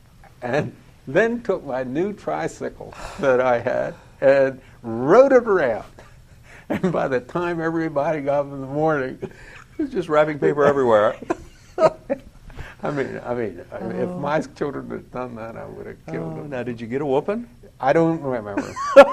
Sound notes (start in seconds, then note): 10.5 laughter